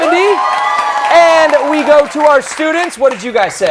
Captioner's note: cheers and applause